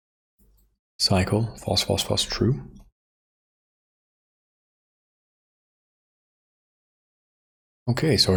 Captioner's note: silence